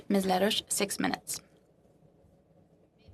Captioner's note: speaking in French